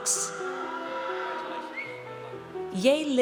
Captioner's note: audience cheers